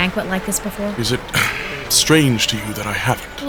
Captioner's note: stomach growls